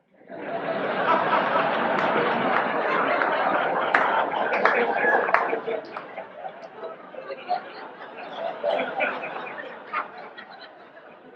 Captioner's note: audience laughs